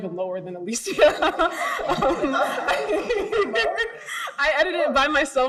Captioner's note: group laughs